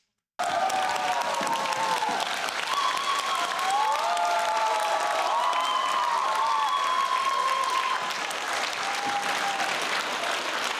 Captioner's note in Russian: Аплодисменты